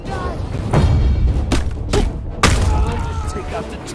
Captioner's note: punches landing